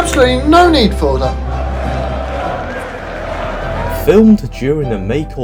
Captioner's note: chanting